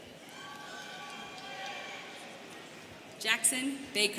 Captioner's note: students cheering